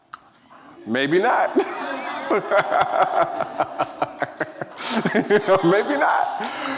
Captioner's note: laughs